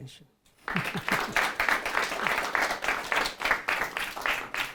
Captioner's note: audience applauding